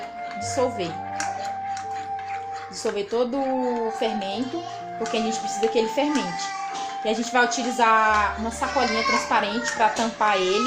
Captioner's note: child speaking